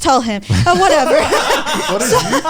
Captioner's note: all laughing